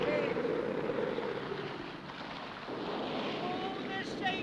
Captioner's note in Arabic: هبوب الريح